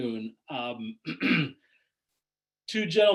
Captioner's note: clears throat